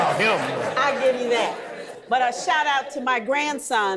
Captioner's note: audience laughing